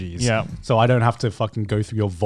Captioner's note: chuckling